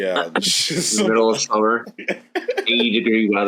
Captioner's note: laughs